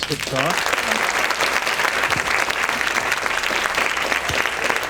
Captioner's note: audience applauding